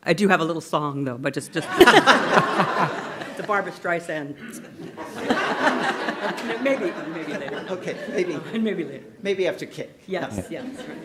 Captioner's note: laughter